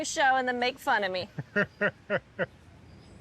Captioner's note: laughs